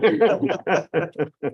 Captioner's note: laughter